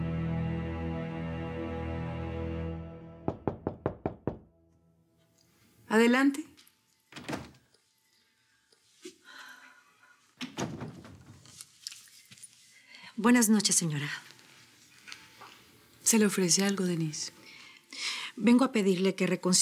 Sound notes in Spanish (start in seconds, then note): 3.2 Toques en la puerta